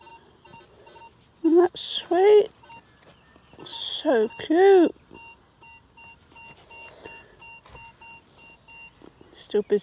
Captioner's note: beeping in background